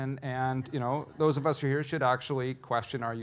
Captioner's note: audience laughing